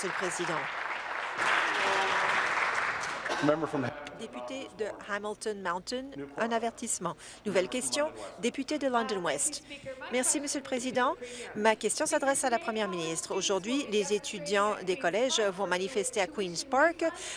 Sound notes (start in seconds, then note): 2.1 applause